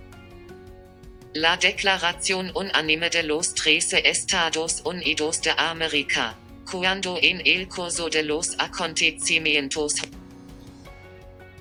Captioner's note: computer voice reading in Spanish